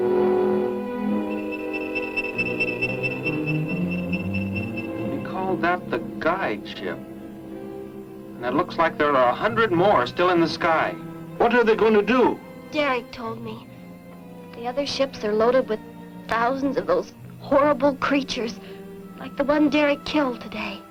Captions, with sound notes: [ AIRCRAFT WHIRS ] He called that "the guide ship." And looks like there are a hundred more still in the sky. - What are they gonna do? - Derek told me. The other ships are loaded with thousands of those horrible creatures, like the one Derek killed today.